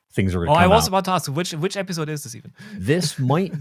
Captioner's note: chuckles